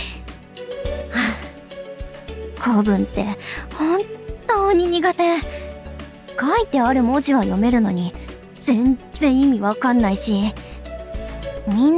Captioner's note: sigh